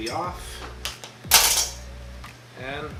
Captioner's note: scissors clatter